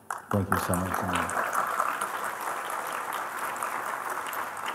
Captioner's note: Applaus